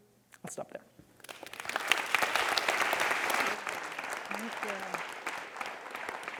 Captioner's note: audience clapping